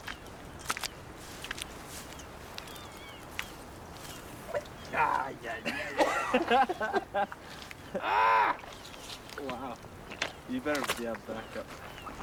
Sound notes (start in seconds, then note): 5.6 laughter